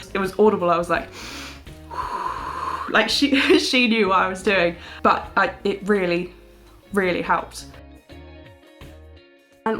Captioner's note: loud exhale